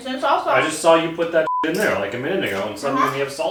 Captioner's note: beep